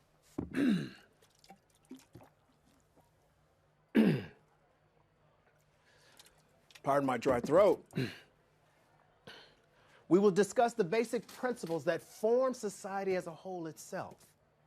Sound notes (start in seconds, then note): 0.4 professor clears throat; 1.2 water sloshing; 3.9 professor clears throat; 7.9 clears throat